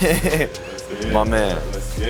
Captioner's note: laughing